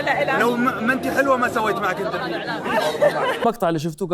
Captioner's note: woman laugh